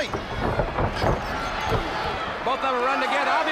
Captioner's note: crowd chatter